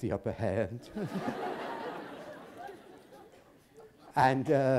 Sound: laughter

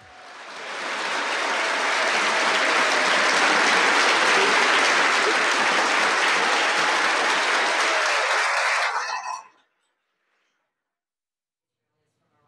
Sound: applause

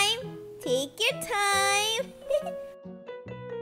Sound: laughs

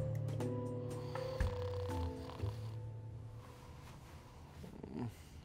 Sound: snoring

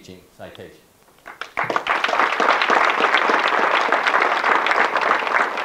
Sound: audience clapping

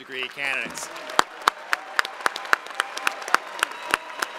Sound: crowd applauding

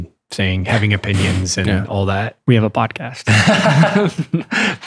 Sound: laughter

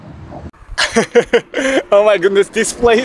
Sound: laughs

